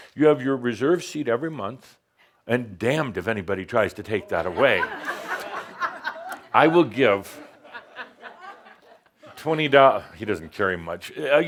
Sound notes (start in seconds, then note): 4.3 more laughter